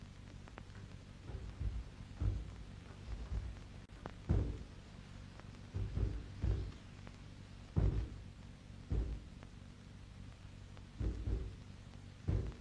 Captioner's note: soft banging sounds